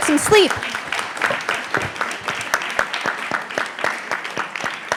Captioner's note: audience applauds